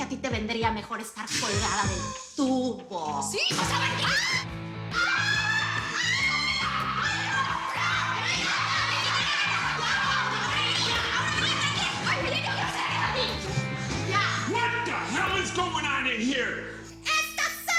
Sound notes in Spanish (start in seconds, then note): 4.9 Gritos